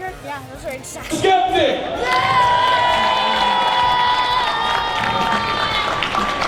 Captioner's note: crowd cheering